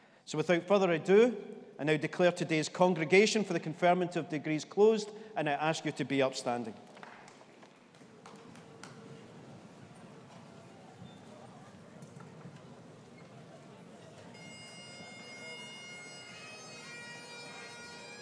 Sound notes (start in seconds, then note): 7.1 audience members chatting softly; 14.3 bagpipes playing